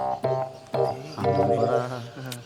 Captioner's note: indistinct chatter